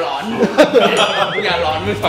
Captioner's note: laughs